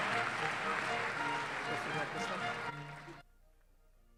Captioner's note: applause